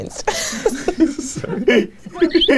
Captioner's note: laughs; chuckling; group chuckling